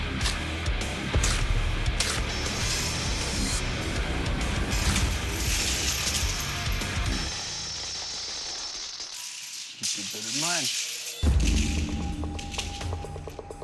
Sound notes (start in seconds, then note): 5.6 coins clattering; 11.2 dramatic music